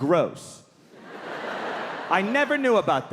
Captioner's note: audience laughing